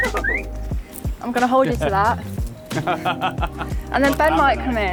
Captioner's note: laughing